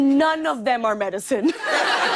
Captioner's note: laughter